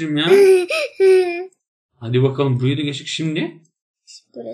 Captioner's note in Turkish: gülme sesi